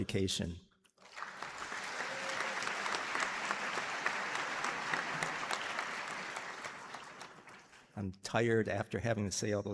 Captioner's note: applause